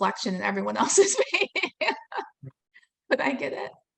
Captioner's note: laughing